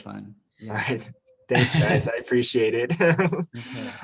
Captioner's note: laughs